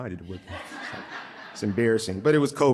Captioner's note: audience laughing